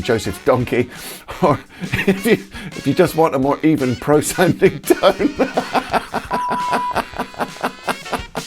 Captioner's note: laughs